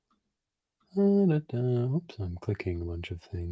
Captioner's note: hums